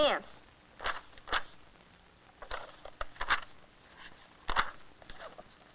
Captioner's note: pages fluttering